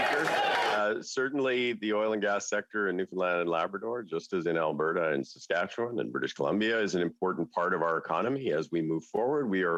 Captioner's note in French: voix de l'interprète